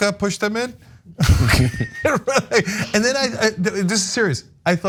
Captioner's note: laugh